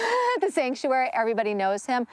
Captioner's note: laughs